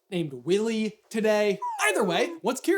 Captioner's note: quick slide whistle